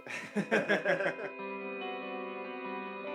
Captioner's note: laughter